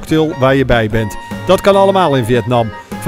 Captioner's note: voiceover